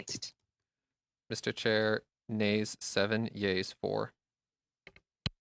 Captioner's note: speaking French